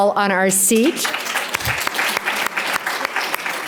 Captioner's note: applauds